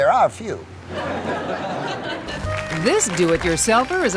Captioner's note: audience laughing